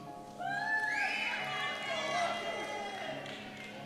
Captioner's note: cheers